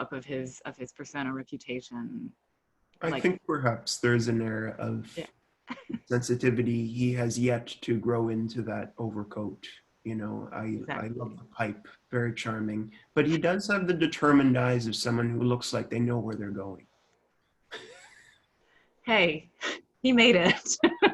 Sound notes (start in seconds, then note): 17.8 laughs; 20.4 laughs